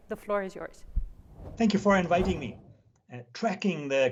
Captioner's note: air whooshing